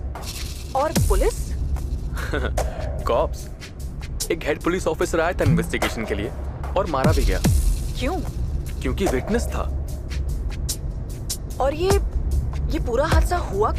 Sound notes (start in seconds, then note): 2.1 chuckles